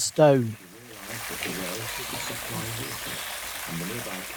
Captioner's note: sound of falling water